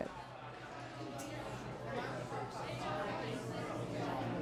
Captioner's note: bar patrons chatting